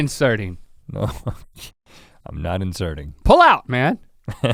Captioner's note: chuckles